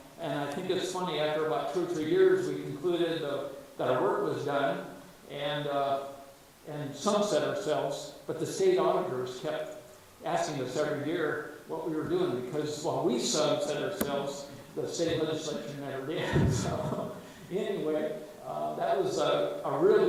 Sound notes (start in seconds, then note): 16.2 chuckles